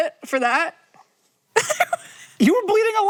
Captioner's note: Maya giggles